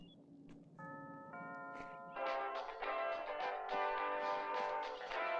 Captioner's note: doorbell ringing